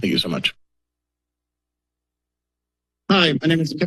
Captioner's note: silence